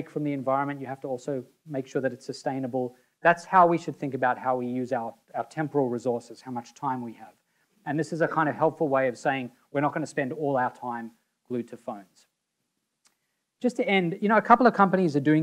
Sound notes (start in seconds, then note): none